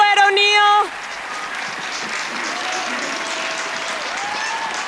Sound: cheers and applause

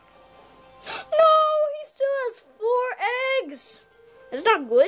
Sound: gasp

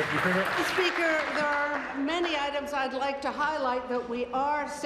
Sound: applause

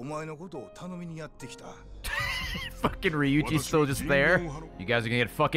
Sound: laughs

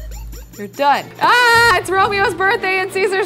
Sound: girl yells

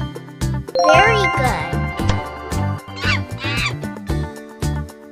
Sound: monkey sound

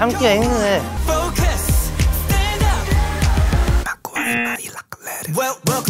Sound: buzzer rings

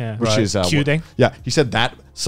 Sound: speaks Japanese

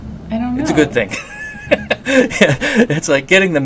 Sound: laughs

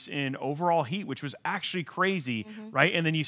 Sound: mmhmms

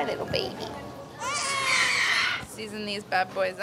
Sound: baby crying

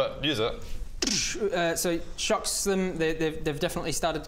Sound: ddsssh

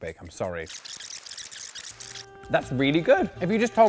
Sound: squeaking

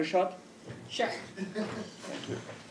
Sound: laugh

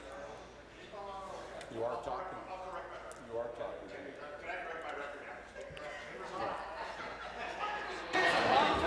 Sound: conversation din

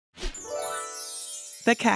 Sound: bells tinkling; image whooshing

